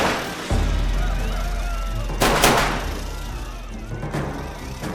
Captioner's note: gunshots blasting